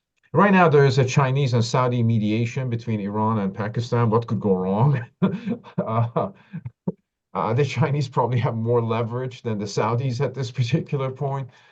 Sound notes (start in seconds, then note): 4.9 laughs